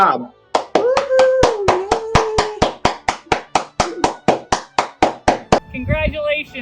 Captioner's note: claps